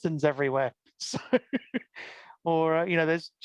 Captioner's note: laughs